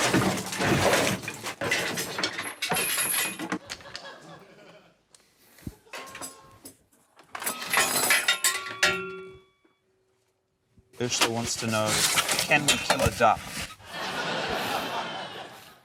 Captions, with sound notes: (DEBRIS CLATTERS) (METAL RATTLES) - Urzila wants to know, 'Can we kill a duck?' (LAUGHTER)